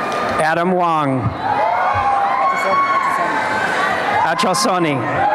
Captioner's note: applause and cheering